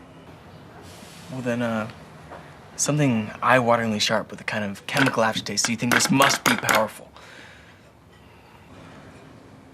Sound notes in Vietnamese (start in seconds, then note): 5.6 đập bàn